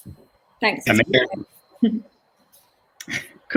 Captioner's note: overlapping chatter